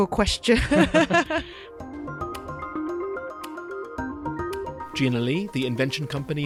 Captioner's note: voiceover